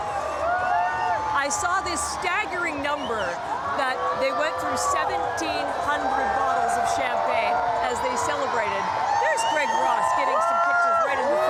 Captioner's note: cheering